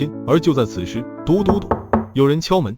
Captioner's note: knock knock knock